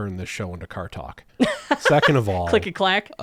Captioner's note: laughs